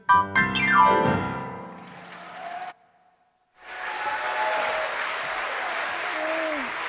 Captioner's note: cheers and applause